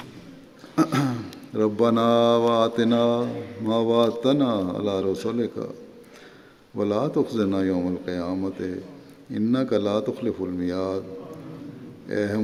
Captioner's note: Arabic